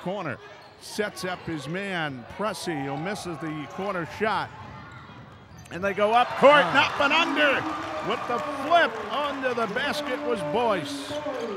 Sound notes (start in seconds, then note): 7.4 crowd cheering; 7.6 clapping